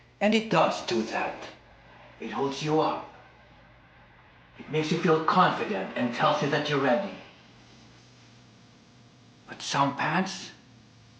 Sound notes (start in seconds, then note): none